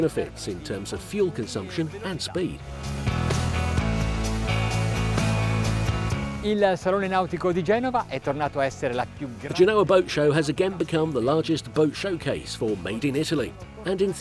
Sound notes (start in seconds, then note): 3.8 upbeat music; 6.7 foreign language